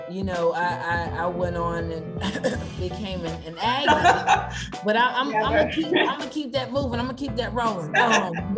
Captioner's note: coughs